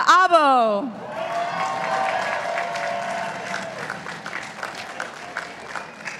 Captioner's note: participants applauding